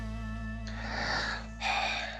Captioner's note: sighs